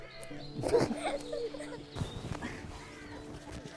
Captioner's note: gentle orchestral music continues; both laughing